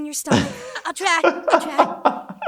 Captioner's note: laughs